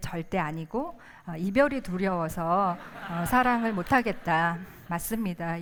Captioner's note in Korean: 웃음